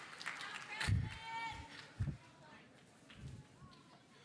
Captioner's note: audience applauding; audience cheering; student yelling